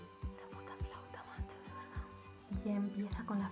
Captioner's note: whispering